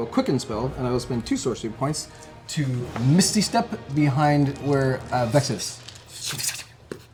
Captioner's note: whoosh